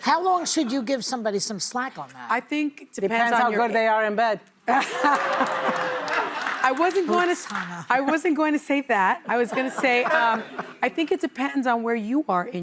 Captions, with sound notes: How long should you give somebody some slack on that? - I think, depends on how good they are in bed. (audience laughing) I wasn't going to say that. I was going to say, I think it depends on where you are